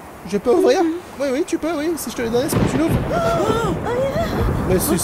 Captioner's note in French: Tonnerre